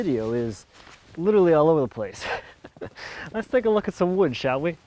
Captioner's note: laughs